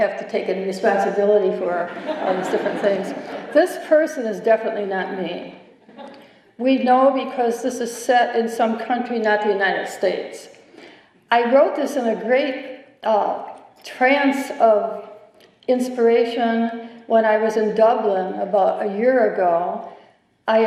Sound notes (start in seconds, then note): 1.8 laughter